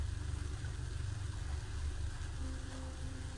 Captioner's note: whisper